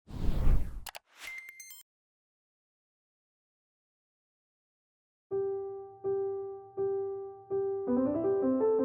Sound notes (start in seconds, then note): 0.1 whooshing; 0.8 clicking; 0.9 electronic tones; 5.3 piano music